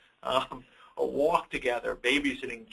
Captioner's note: chuckles